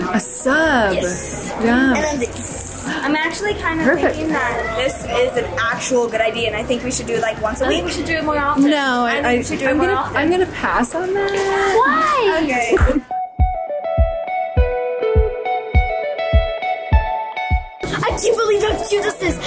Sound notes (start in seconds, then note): 3.3 gasps; 12.6 upbeat music